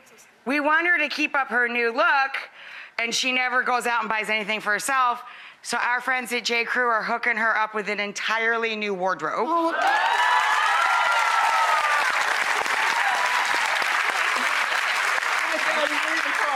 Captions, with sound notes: We want her to keep up her new look, and she never goes out and buys anything for herself, so our friends at J. Crew are hooking her up with an entirely new wardrobe. (audience cheers and claps) Oh, thank you so much!